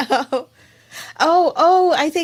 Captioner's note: laughs